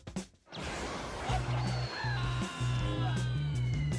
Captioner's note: Boba Fett screaming